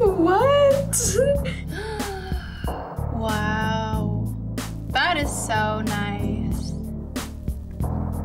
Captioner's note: gasps